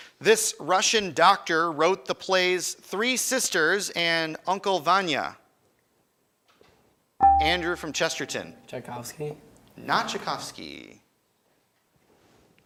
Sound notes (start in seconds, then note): 7.2 buzzer chimes